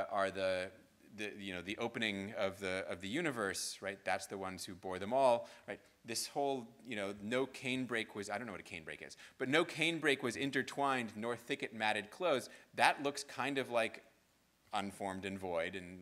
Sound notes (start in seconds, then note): none